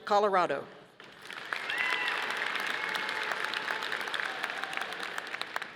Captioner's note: audience applauding